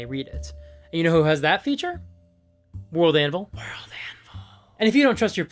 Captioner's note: Whispers: WorldAnvil…